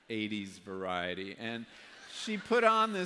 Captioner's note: laughter